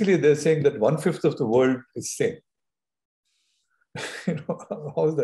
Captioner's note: laughs